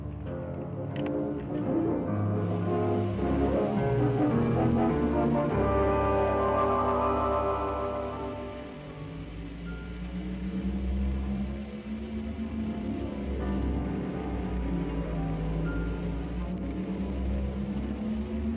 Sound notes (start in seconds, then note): 10.6 low-pitched Hum